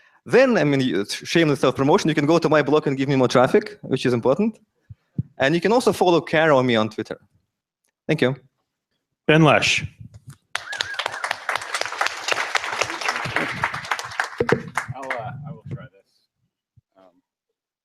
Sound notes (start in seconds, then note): 10.4 applause